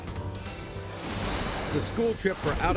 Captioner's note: plane engine